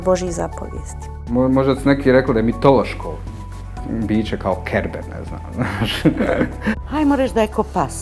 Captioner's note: laughter